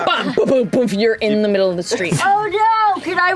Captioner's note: bumping